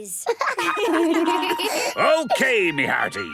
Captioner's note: laughter